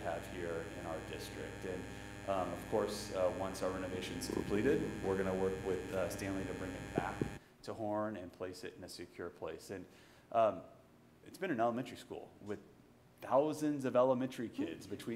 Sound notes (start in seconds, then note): none